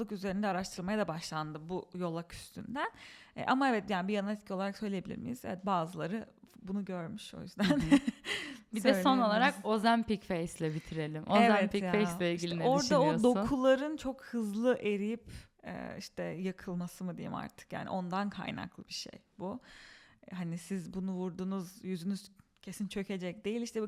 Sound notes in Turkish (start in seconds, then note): 7.6 kahkaha